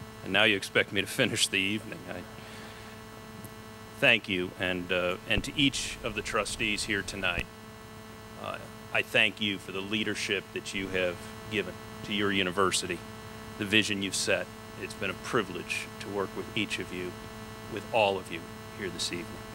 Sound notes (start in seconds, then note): none